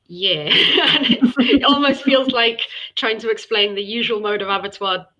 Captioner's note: laughter